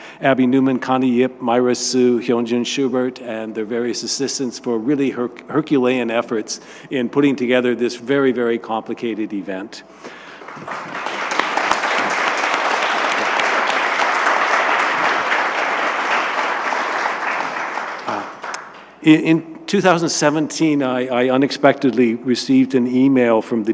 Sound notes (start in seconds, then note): 10.1 audience clapping